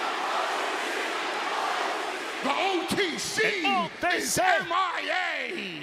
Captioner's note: applause